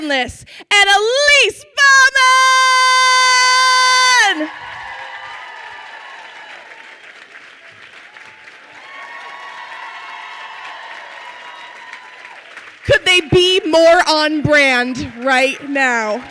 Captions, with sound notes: and Elise Bauman! (crowd cheers and applauds) (crowd cheers loudly) Could they be more on brand right now?